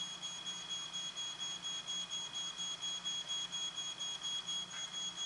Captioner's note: fire alarm beeping